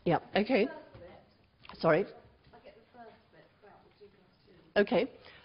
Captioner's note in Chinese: 無聲